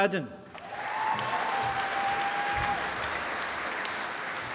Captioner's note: applause